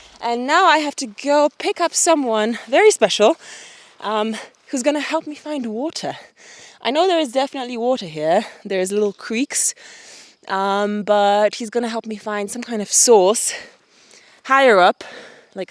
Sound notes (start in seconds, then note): none